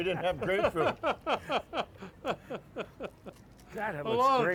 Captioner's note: laughter